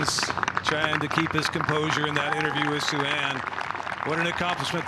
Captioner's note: applause